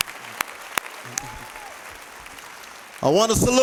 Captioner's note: applause